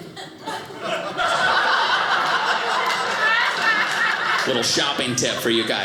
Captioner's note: audience laughing